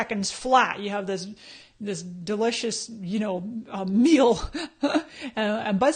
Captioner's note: laughs